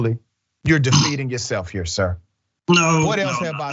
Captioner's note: cough